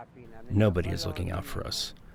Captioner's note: through translator